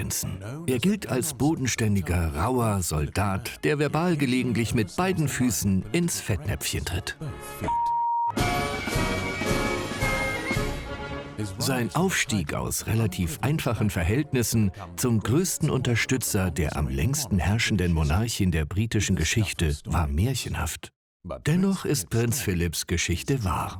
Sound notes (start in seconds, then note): 7.6 beep; 8.2 dramatic music